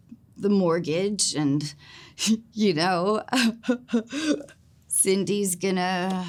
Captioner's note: laughs